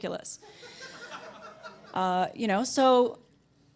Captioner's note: audience laughter